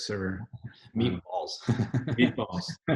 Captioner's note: laughs